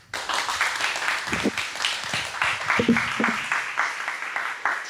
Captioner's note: audience applauds